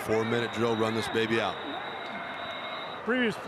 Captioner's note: referee blows whistle